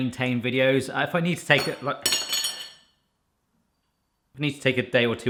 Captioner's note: spoon falling to the floor